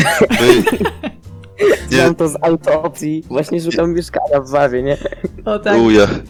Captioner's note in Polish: śmiech